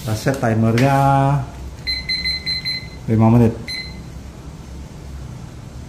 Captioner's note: beeping sound